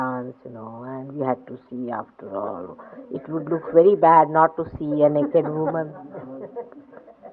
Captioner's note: laughing